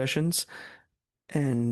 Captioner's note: speaking French